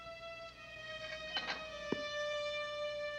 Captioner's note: creaking